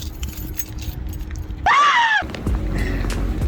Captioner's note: screams!